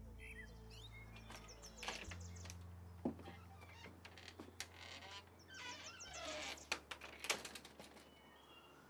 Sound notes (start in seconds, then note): 0.9 door creaks open; 5.6 door clicks shut